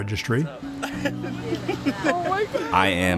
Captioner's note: laughs